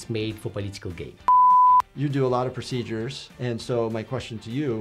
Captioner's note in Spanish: pitidos de transmisión